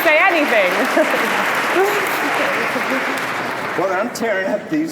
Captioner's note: applause